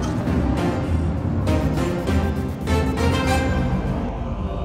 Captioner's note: engines change pitch